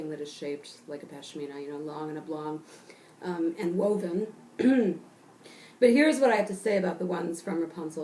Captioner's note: cough